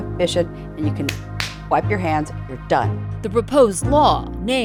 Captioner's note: claps